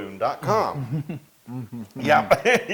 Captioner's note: laugh